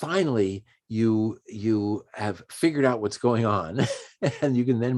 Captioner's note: chuckles